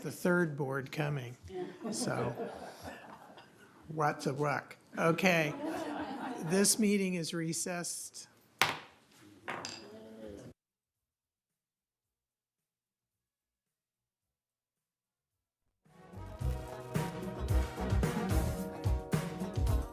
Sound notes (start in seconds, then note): 5.0 laughter